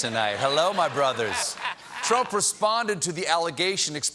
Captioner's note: laughter